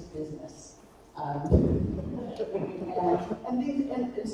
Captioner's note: attendee laughing